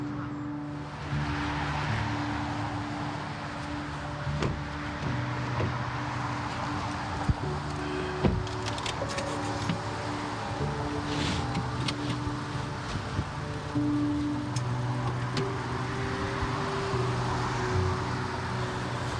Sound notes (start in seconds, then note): 1.3 traffic whirs; 4.3 car doors thud; 8.4 car key clicks; 9.4 car engine revs; 12.2 traffic whirs